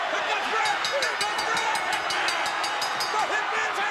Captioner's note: bell dinging